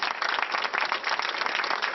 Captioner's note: applause